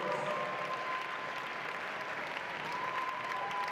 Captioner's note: audience cheering